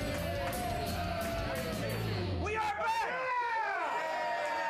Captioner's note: upbeat rock music; audience cheering